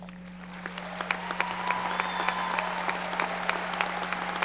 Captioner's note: audience applauding